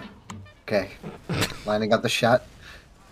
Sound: snicker

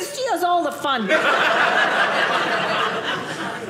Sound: audience laughing

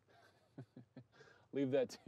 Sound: person laughing

